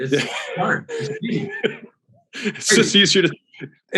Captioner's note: Alex laughs